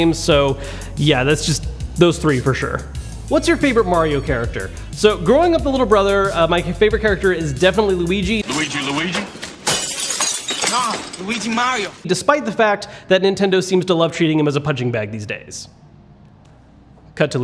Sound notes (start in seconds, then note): 8.4 glass shatters